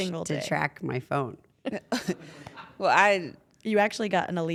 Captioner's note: laugh